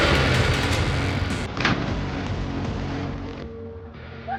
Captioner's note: car revving; clones thud